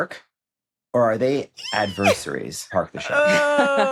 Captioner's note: squeals, laughs